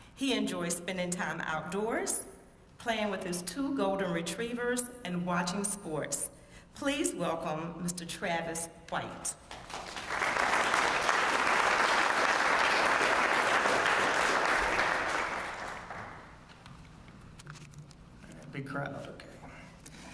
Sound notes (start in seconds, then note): 9.4 applause